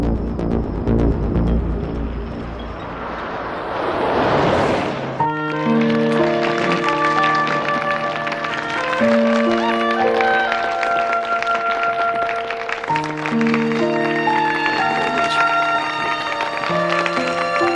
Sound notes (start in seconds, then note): 0.0 suspenseful music; 8.0 guests applauding